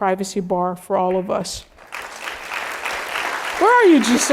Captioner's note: applause